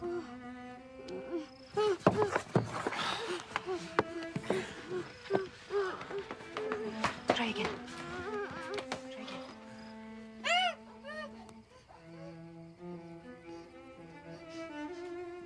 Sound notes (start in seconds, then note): 0.3 moans; 9.9 moans; 12.9 sniffs